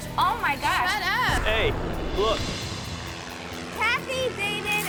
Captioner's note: plane buzzing